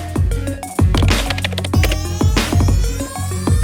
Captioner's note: typing effect; upbeat music